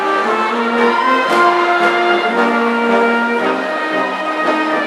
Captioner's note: audience cheering